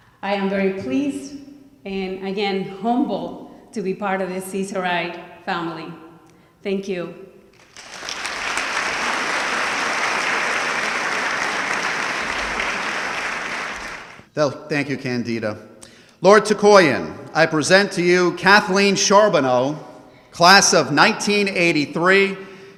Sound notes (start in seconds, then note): 7.5 audience clapping